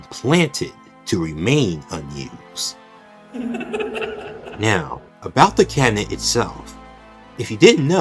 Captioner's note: Glitchrap's Laugh